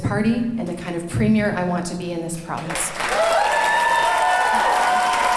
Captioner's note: cheering and clapping